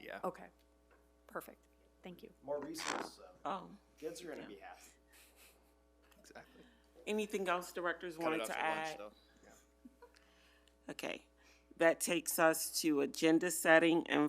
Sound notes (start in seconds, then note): 5.4 chuckles; 9.9 chuckles